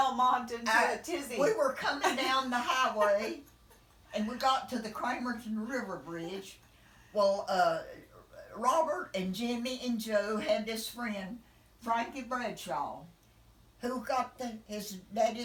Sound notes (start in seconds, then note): 5.3 laughing